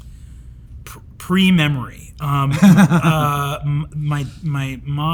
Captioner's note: Hank laughs